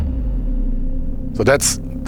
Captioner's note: parachute thuds